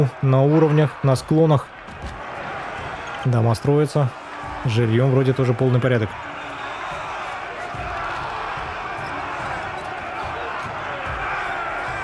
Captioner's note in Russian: ликование